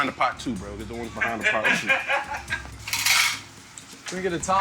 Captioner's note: laughs